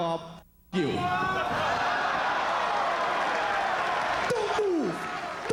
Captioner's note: applause